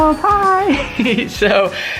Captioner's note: laughter